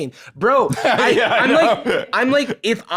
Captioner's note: laughing